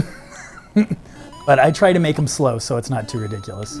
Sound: laughs

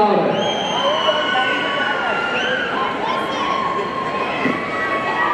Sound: audience cheering

